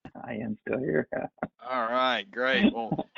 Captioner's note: laughing